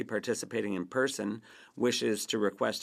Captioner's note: speaking French